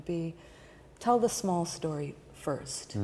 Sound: none

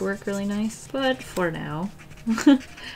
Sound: laughs

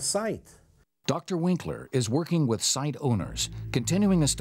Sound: voiceover

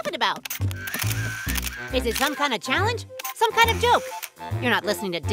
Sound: camera flashing noises

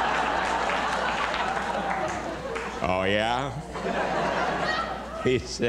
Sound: laughter and applause

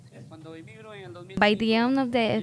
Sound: speaks in Spanish

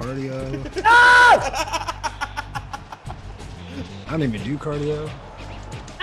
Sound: laugh

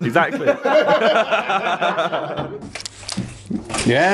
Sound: laughing

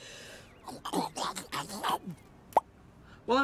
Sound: slurps, Pops

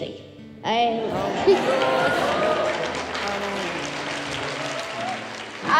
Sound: applause

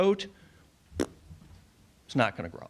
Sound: blows raspberry

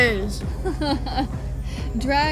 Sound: Sabrina laughs

